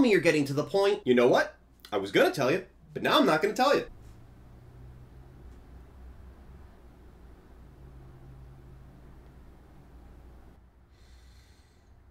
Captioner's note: deep Sigh